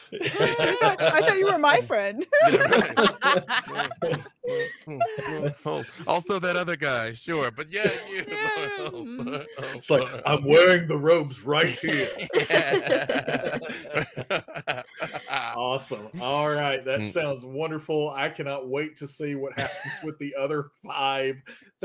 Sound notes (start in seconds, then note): 3.5 everyone laughing; 8.3 laughs; 11.4 laughing